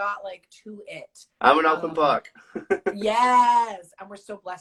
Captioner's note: laughs